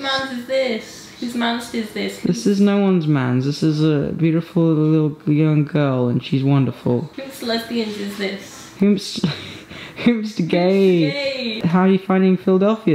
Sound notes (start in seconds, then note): 9.2 laughs